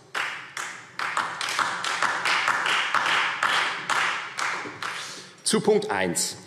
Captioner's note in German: Beifall